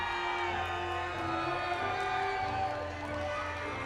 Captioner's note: audience cheers